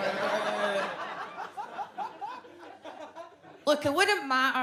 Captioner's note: audience laughs